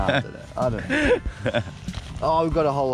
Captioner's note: laughing